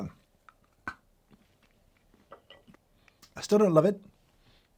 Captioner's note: chocolate cracking